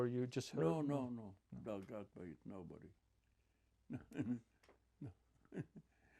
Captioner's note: laughing